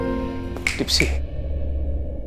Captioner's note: Finger snaping